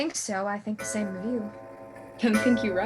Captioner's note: clock strikes